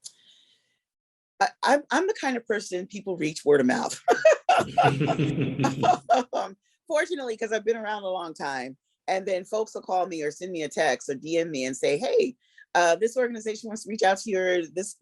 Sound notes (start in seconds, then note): 6.7 laughter